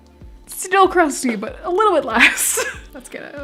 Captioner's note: laughing